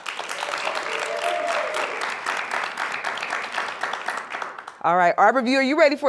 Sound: applause

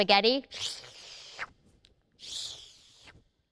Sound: slurps

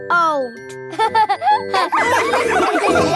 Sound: all laughing

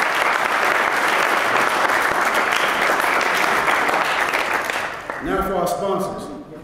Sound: applause

